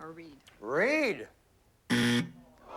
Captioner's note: buzzer